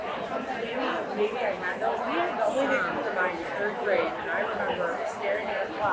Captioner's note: people chattering continues